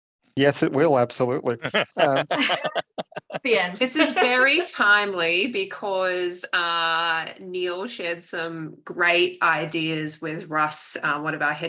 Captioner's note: laughter